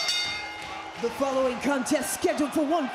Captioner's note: bell rings